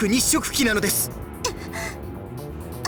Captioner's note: gasp